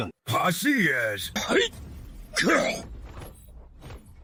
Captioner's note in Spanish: Cof